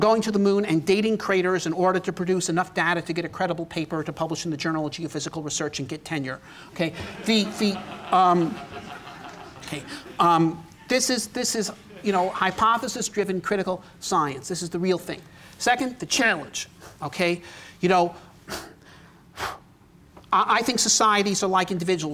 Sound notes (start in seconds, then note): 6.9 laughter